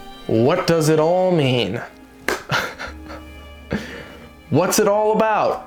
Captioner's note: laughing